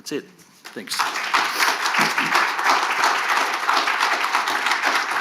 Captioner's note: audience applauding